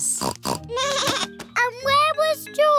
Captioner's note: snorts; bleats